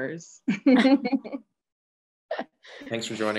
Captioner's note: chuckling